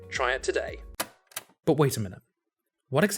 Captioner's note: casette stop sfx